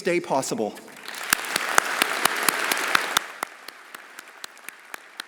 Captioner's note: everyone applauding